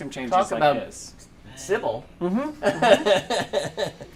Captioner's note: laughter